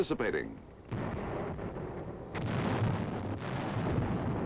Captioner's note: booming